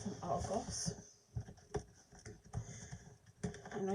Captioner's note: no speaking sound of hands rubbing on a box